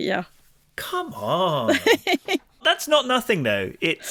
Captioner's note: laughs